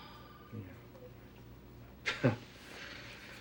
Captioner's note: chuckles; shuddering